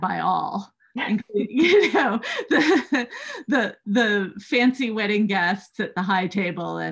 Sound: laughter

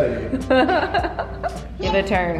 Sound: laughs

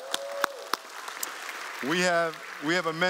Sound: applause

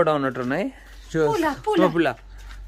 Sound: speaking in foreign language

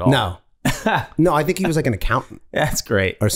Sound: Glenn laughing

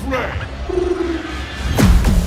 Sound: cooing

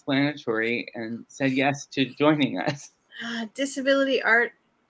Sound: laughs

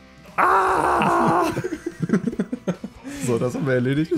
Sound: both laughing

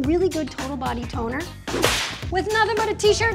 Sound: whip cracks

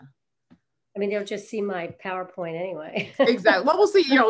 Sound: chuckles

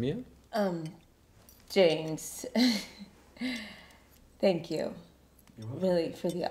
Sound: chuckling

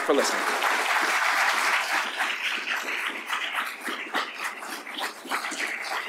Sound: applause

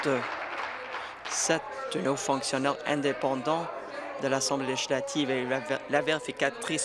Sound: applause

